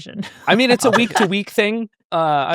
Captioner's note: laughing